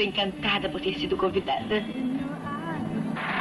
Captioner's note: radio playing